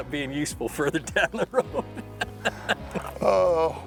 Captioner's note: laughing